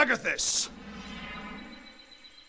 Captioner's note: shimmering noises